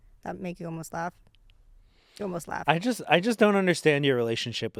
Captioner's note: none